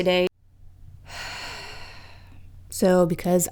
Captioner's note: sighs